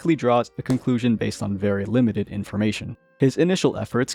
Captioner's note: thwack